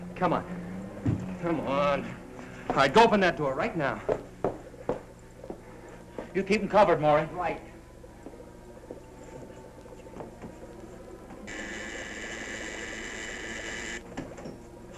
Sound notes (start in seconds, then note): 11.4 buzzing